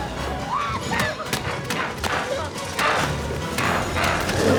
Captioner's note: dramatic music continues; Chalee shrieks